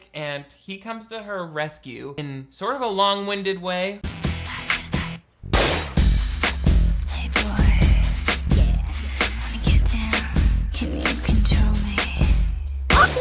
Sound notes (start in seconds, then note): 4.1 lively pop music; 4.1 woman breathing rhythmically; 5.5 metal bangs